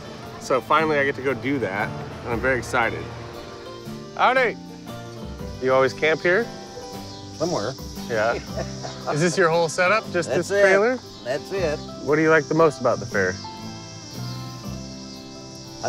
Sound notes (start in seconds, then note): 8.3 chuckling